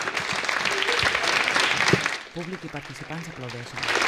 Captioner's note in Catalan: Aplaudiments